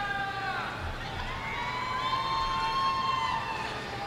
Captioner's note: audience cheering